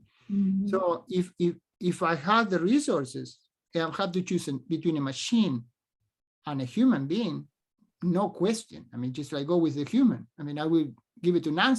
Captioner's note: speaks spanish